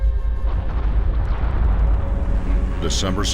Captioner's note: explosion